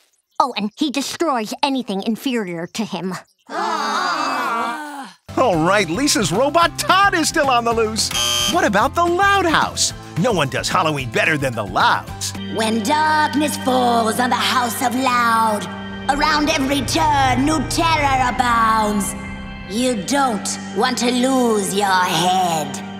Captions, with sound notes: Oh, and he destroys anything inferior to him. [groaning] Oh, right, Lisa's robot Todd is still on the loose! What about the Loud House? No one does Halloween better than the Louds. When darkness falls on the house of Loud, around every turn, new terror abounds, you don't want to lose your head.